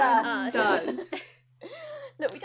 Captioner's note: all laugh